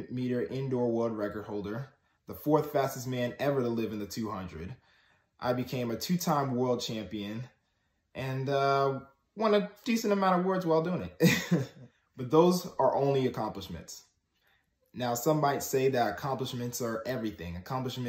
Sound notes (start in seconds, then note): 12.1 laughs